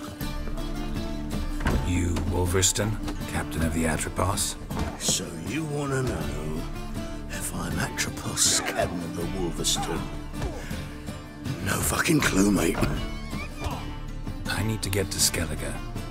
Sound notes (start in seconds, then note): 4.9 slurring; 13.0 laugh